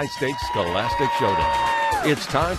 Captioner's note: applause